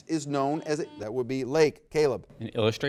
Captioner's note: buzzer beeping